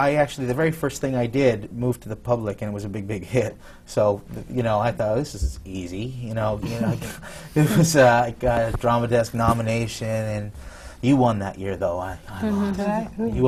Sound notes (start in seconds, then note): 6.6 laughs